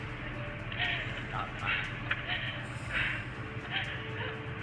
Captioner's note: nurse panting